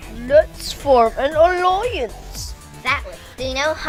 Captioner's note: none